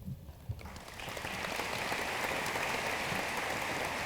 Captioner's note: room applauds